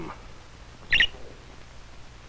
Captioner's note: chirping